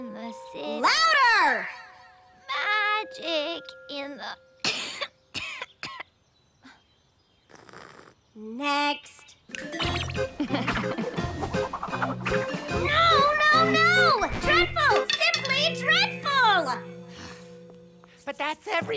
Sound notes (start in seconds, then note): 4.6 coughing